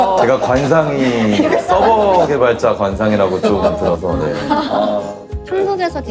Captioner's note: laughs